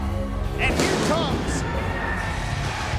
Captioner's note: fireworks blasting